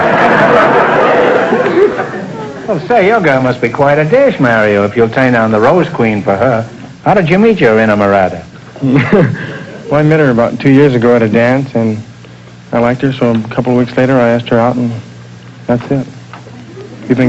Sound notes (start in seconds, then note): 0.0 audience laughter; 8.8 chuckles